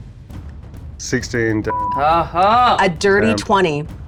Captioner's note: groans